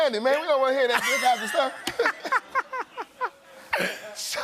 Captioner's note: laughter